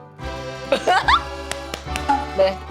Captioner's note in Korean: 꺄륵